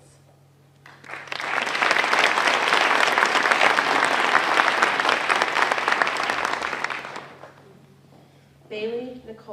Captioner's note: applause